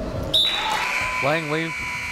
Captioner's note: whistle and buzzer blaring